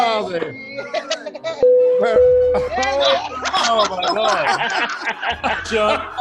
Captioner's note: group laughs and cheers